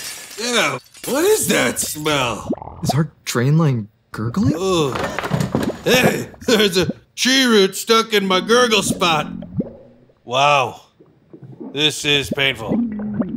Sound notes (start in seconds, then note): 0.0 glass breaking; 1.4 gurgling sounds; 4.5 man groaning